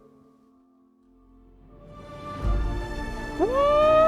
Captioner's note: cheering